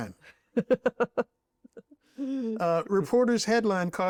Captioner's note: laughs